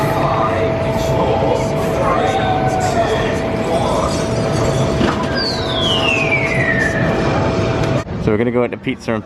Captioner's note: falling Sound Effect